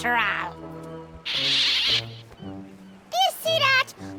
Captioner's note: pelican squawks